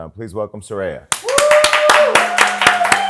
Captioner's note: cheering